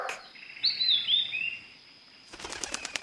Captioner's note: bird chirp